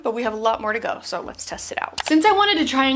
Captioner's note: mouse clicking